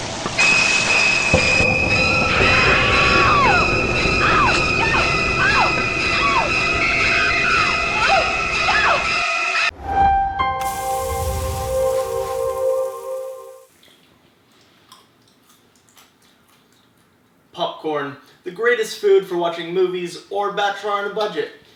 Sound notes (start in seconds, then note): 2.5 on-screen female screaming; 10.5 sizzle; 13.7 chewing